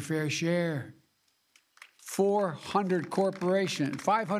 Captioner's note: applause